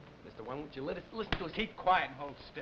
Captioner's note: hand smacking